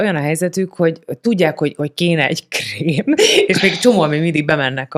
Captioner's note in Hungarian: nevetés